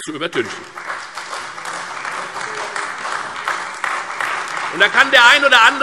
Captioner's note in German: Beifall Freie Demokraten, vereinzelt CDU und AfD